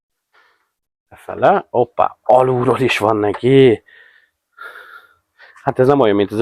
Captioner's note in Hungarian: sóhajtás